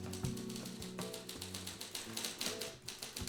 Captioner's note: typing